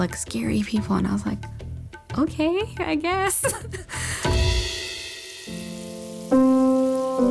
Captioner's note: chuckles